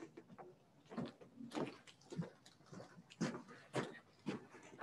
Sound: footsteps clanging

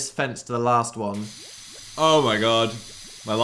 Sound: liquid hissing

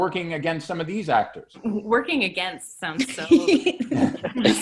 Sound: everyone laughing

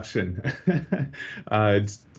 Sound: chuckling

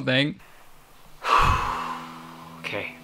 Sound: exhales deeply

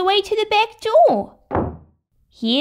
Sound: slam!

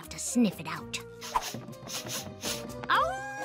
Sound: sniffing; howls

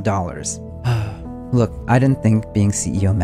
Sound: deep sigh

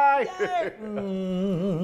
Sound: laughs; moans

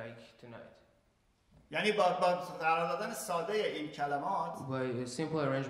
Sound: speaking in farsi

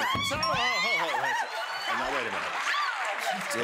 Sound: cheers and applause

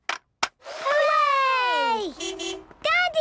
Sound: distant beeping

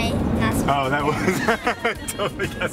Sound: laughing

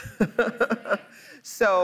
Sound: laughs

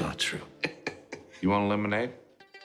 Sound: laugh

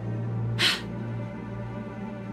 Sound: gasp

